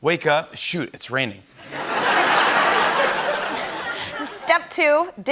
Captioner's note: laughter